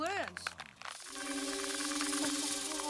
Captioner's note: rattling sound